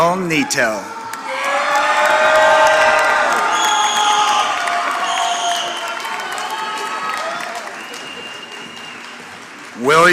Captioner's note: applause